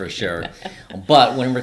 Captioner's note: laughing